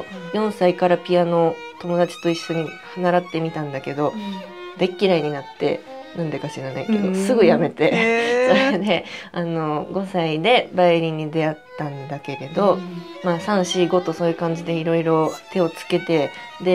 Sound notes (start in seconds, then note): 6.9 laughs